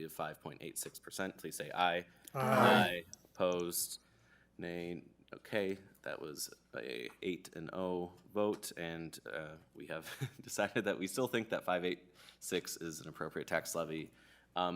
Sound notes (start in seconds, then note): 10.0 laughter